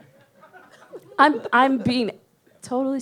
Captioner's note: audience laughs